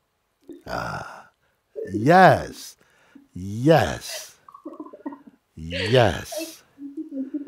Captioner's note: lachen